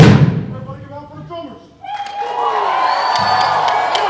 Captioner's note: non-english speech